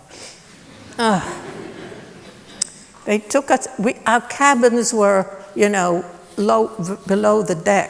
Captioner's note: laughter